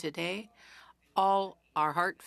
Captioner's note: speaking French